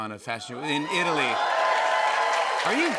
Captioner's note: cheers and applause